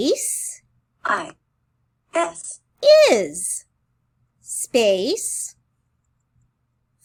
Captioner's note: computer voice